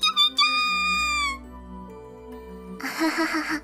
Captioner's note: squawk Squaaawk